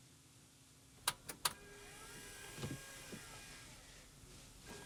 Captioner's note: whirring